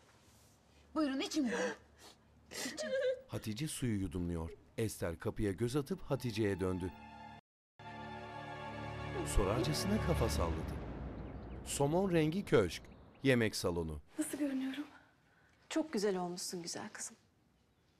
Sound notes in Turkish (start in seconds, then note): 2.3 Burun çekme sesi; 6.3 Müzik - Gerilim